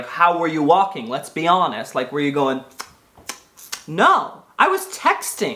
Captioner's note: smacks lips